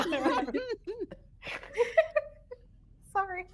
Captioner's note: people laughing